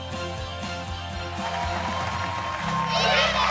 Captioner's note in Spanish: Ovación